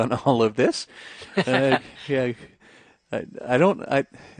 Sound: men laughing

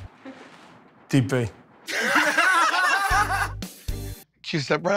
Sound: laughter

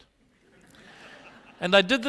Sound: laughter

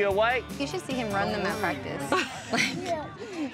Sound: laughs

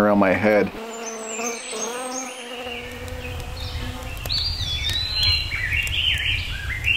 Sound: birds chirping; insects buzzing

